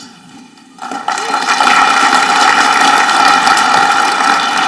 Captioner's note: audience clapping